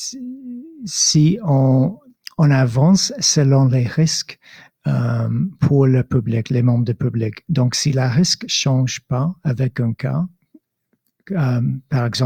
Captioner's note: speaking in French